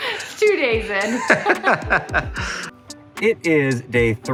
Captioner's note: laughing